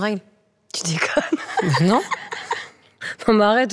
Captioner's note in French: rires